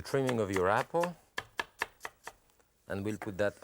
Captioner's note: knife slicing